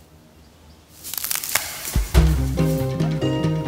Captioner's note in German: Lautes Knacken